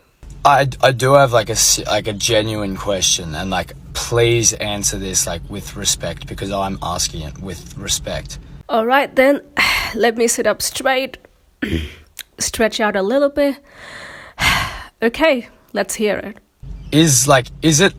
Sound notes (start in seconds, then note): 11.6 sighs; 13.7 sighs